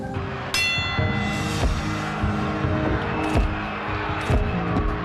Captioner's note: cheering